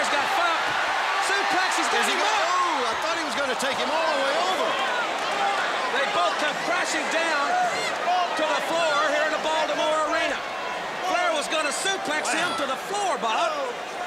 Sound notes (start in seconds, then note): 3.5 crowd chatter